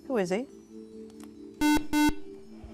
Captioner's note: buzzer